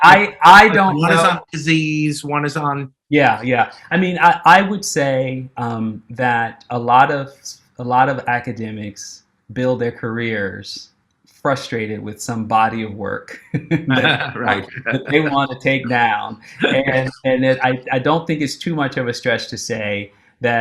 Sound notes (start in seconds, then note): 13.3 laughing